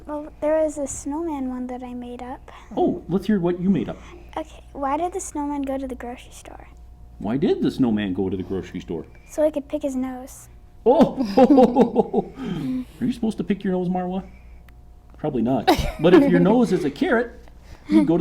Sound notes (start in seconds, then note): 11.0 laughs